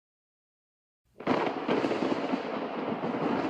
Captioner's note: thunder